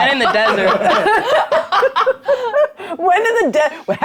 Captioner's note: players laughing